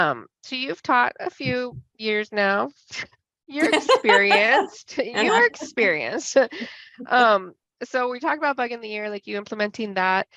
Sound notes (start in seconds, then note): 3.6 laughs